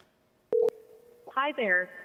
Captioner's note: ringing